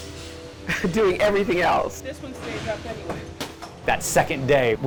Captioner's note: chuckles